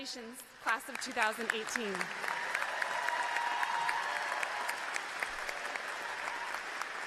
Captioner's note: clapping